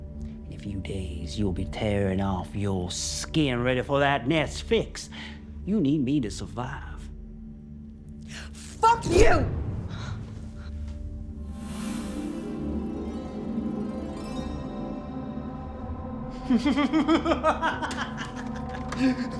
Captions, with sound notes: - In a few days, you'll be tearing off your skin ready for that nest fix. You need me to survive. - Fuck you. (ax thuds) (breath whooshing) (bells chiming) (Oscar laughing)